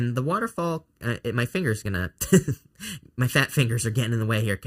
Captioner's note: chuckles